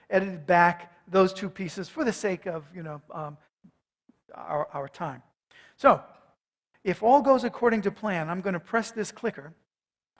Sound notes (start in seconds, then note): none